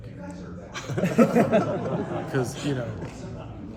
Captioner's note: laughter